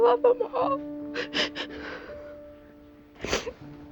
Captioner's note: crying